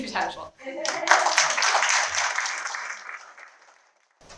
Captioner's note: applause